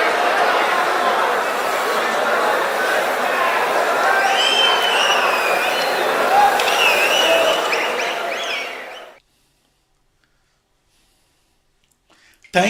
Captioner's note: wild applause and cheering for 22 seconds